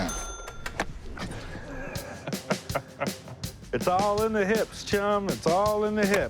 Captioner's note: laughs